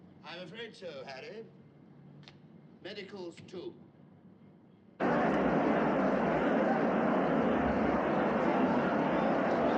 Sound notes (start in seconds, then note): 5.0 chattering